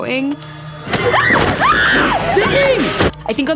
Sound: Ziggy screaming

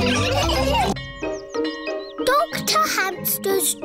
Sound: all laughing; bell tolling

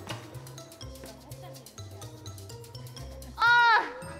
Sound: scratch scratch

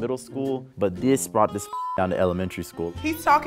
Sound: beep

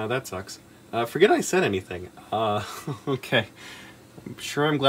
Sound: giggles nervously

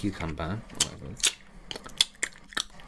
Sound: spitty Mouth Noises

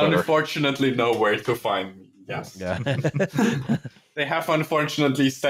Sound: laughter

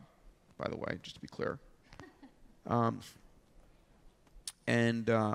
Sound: audience member chuckles

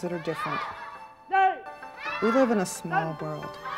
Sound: shouting

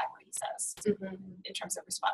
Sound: voiceover

